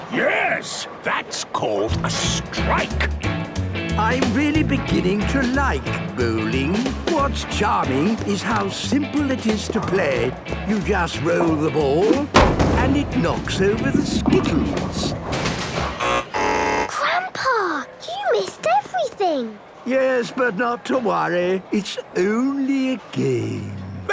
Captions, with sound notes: - Yes. That's called a strike! - I'm really beginning to like bowling! What's charming is how simple it is to play! You just roll the ball, and it knocks over the skittles! (buzzing) - Grandpa! You missed everything! - Yes. But not to worry. It's only a game.